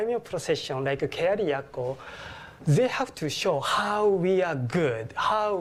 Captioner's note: japanese